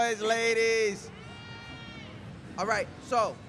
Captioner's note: crowd cheering